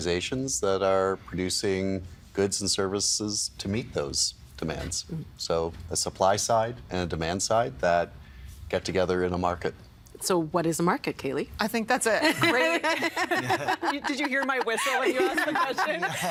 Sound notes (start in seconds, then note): 12.3 all laughing